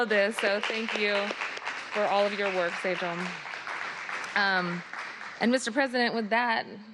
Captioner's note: applause